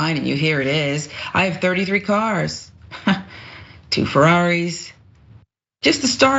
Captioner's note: laugh